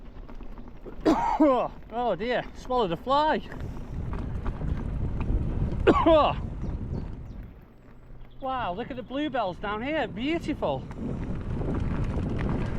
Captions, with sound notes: (Coughs) Oh dear! Swallowed a fly! (Coughs) Wow look at the bluebells down here - beautiful!